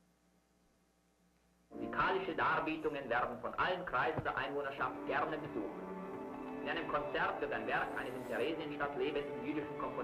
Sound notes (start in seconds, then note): 2.3 speaking in a foreign language